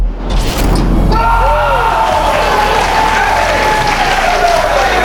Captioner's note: spectators applauding